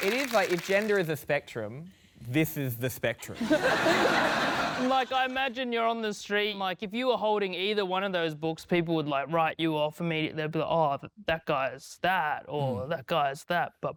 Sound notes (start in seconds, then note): 3.3 laughter